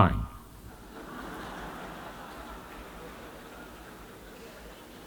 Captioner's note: laughter